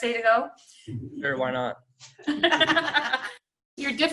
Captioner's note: laughing